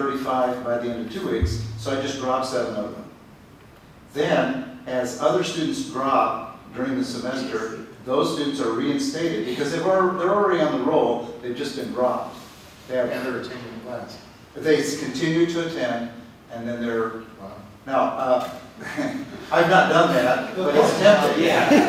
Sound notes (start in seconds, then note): 21.4 laughter